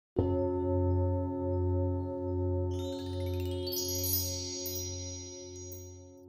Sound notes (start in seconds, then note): 0.0 metal bowl rings; 2.7 chimes ring